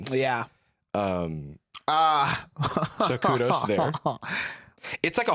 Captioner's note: laughs